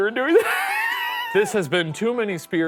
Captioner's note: laughing